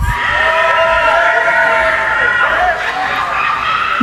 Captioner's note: cheering